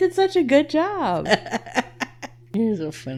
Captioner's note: laughing